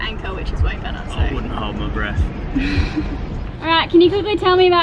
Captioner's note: laughs